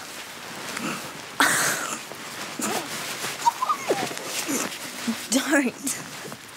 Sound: giggling

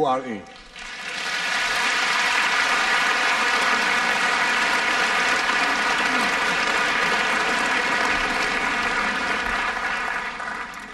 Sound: applause

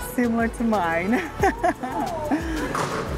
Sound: laughs

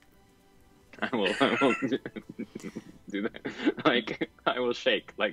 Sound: laughs

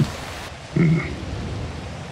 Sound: grunts

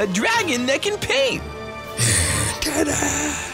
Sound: grumbling

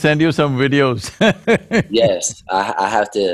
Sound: laughs

